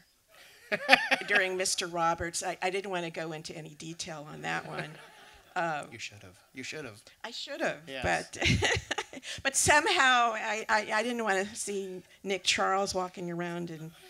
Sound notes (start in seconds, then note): 0.5 laughter; 8.0 laughs